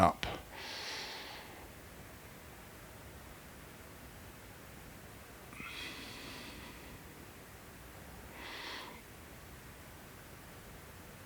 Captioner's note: silence